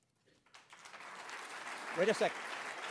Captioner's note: applause